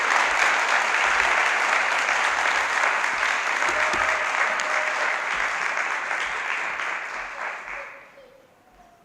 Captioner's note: applause